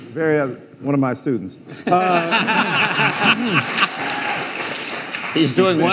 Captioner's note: audience applauding